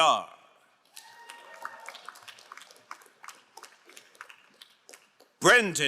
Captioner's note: crowd cheering and applauding